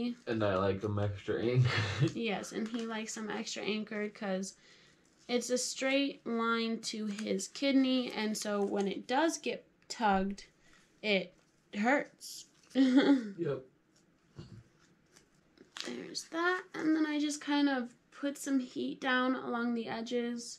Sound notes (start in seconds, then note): 1.4 laughs; 12.8 laughs